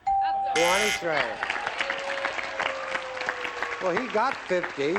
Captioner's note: applause